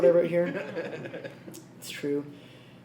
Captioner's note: laughs